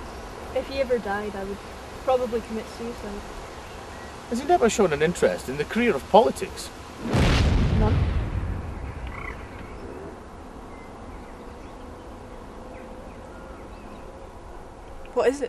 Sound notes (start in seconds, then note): 7.0 bang